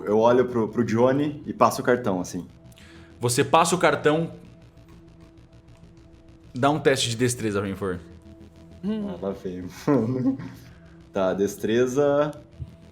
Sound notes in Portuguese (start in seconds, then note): 9.8 Risada